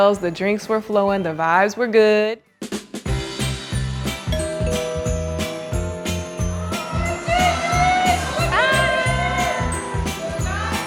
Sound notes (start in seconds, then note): 2.6 upbeat festive music; 4.3 doorbell rings